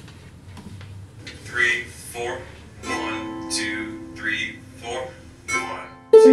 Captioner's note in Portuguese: som do tutorial vindo do laptop recomeça